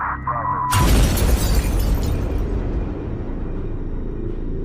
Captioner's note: bomb explodes